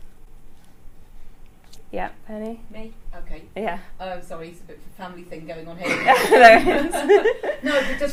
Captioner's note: audience laughs